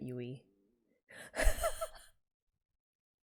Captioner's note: laughs